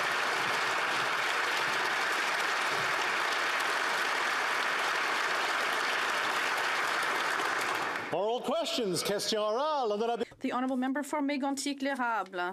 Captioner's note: applause